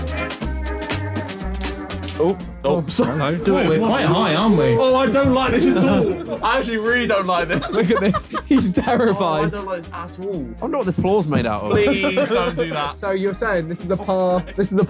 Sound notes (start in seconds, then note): 1.5 air hissing